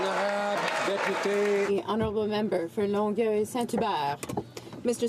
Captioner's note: some Applause